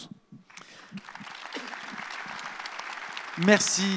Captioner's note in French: Applaudissements